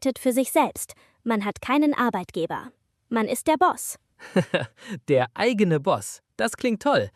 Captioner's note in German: gelächter